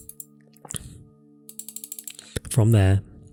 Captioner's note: clicks on mouse